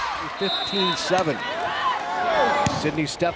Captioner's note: crowd and players cheering; players yelling; whistle blows